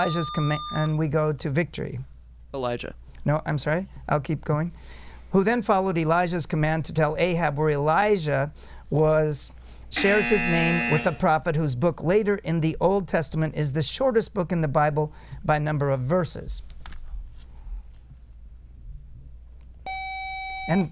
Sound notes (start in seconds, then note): 0.0 buzzer; 7.5 time Buzzer; 17.0 buzzer